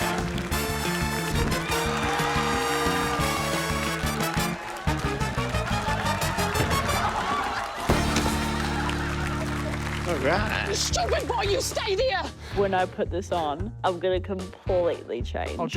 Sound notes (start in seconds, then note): 8.3 laughter